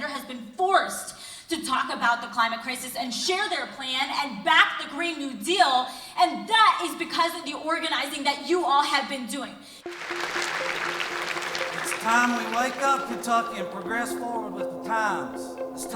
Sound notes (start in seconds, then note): 9.8 crowd applauding; 9.8 upbeat music